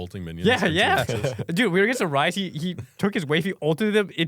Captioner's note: laughs